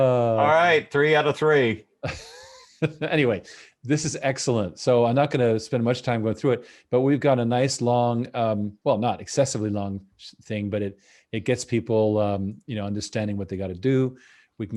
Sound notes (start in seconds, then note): 2.0 laughs